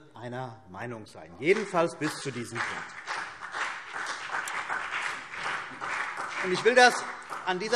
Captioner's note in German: Beifall CDU und BÜNDNIS 90/DIE GRÜNEN